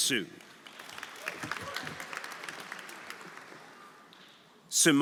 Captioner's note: audience applauding; audience cheering